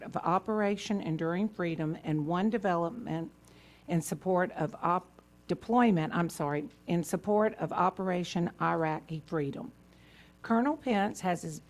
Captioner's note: off mic